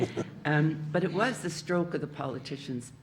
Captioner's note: audience laughing